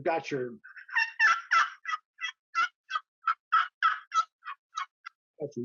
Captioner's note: turkey call sounds